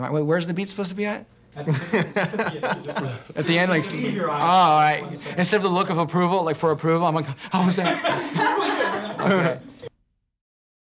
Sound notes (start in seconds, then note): 1.6 laughing; 8.7 group laughing